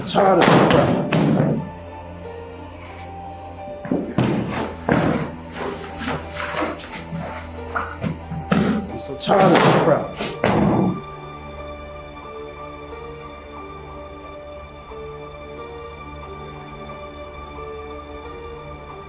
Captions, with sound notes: I'm so tired of this crap. (bag rustling) (mysterious music continues) I'm so tired of this crap. (bag rustling) (mysterious music continues)